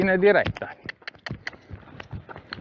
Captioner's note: cluck